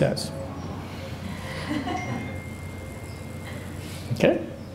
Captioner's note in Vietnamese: laughter